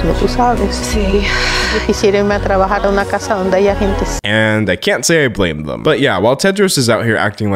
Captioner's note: speaking Spanish